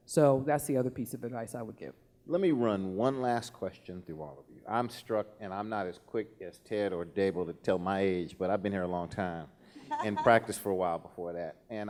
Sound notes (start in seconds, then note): 9.8 laughing